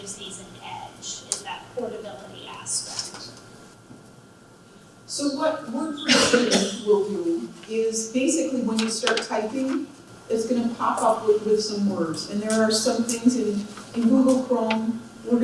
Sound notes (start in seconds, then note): 6.0 coughing Drowns Out Her Voice